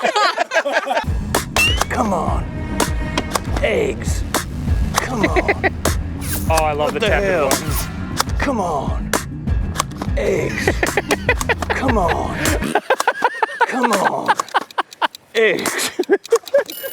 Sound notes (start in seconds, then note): 0.1 crew laughter; 1.4 boing; 5.0 giggles; 10.4 laughs harder; 16.0 laughs